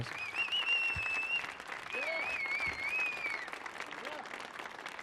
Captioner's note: audience cheering